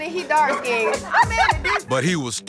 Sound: laughter

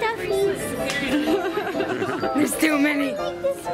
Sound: laughing

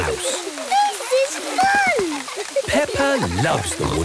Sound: laughter

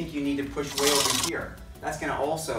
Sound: receipt tape clicking

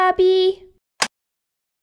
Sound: click!

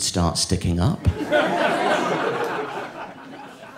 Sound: audience laughing

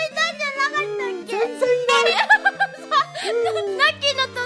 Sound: more laughter

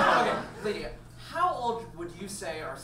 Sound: audience laughs

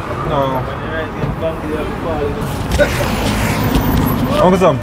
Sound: background conversations

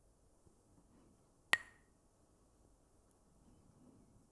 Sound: Mooji clacks the sticks

